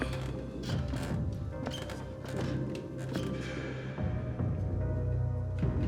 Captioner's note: stairs creaking; eerie music continues